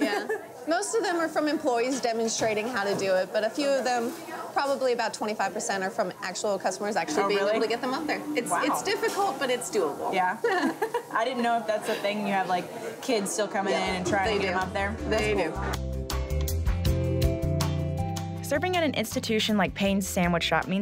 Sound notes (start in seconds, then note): 9.5 laughing